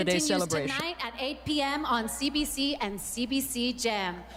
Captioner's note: speaking French